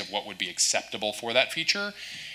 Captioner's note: none